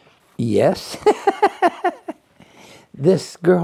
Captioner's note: laughs